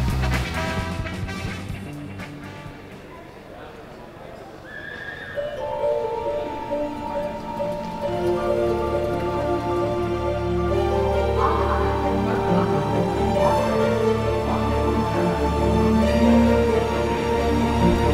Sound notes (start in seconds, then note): 1.6 people chattering; 6.0 soft orchestral music